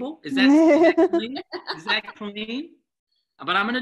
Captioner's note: laughing